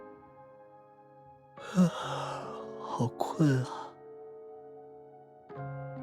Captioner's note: yawns